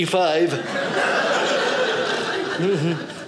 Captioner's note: audience laughing